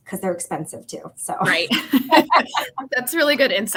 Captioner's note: laughter